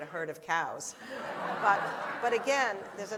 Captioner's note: laughter